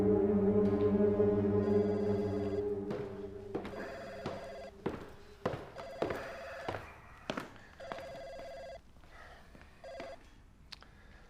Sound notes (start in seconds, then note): 1.8 phone ringing